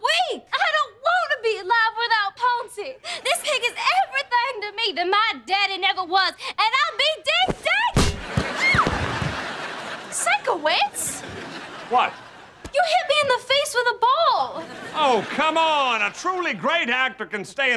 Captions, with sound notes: I don't want to be alive without Poncy. This pig is everything to me that my daddy never was, and I'll be ding danged-- [screaming] Sikowitz? What? You hit me in the face with a ball. Oh, come on. A truly great actor can stay in the scene